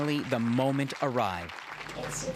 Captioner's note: applause